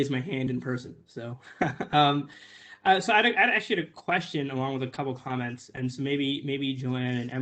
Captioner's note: laughter